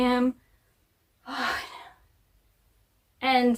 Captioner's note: sigh of frustration